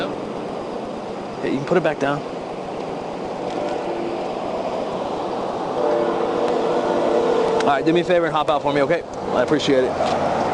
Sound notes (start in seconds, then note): 3.5 vehicles roaring